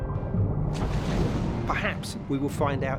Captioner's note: splash